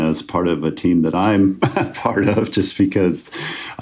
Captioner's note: chuckles